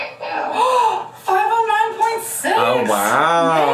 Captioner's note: gasps